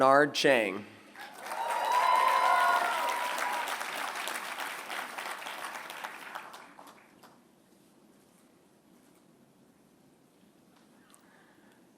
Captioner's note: applause